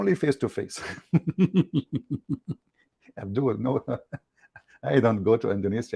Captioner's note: Ketawa